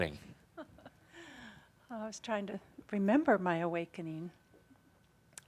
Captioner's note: chuckles